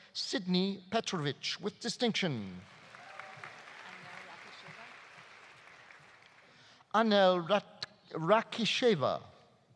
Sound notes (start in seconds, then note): 2.6 audience applauding; 2.8 audience cheering